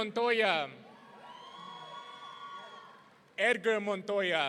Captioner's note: audience cheering